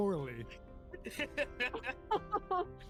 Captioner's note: laughs